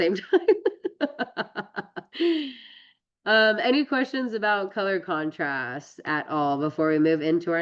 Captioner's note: laughs